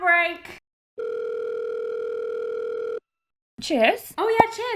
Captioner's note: phone rings